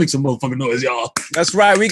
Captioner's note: claps